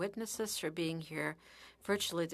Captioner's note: speaking French